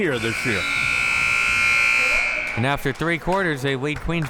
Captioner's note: buzzer sounding